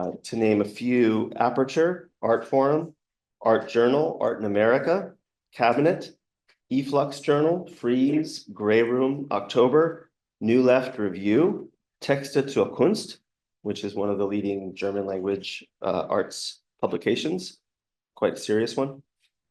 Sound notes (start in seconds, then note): 11.8 german